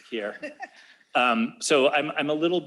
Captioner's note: laughs